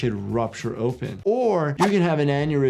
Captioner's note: screen swooshing